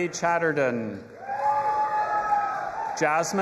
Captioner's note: audience applauding and cheering